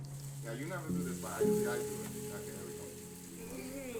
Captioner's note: pan sizzles